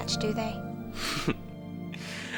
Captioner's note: laughs